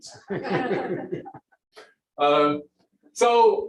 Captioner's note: laughter